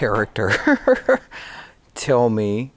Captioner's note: laughing